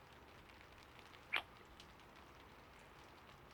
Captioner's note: kiss